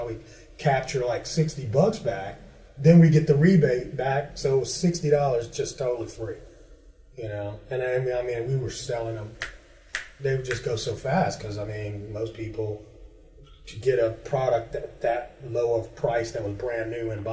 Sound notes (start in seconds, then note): 9.9 snaps fingers